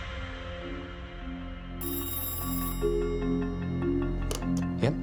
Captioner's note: phone ringing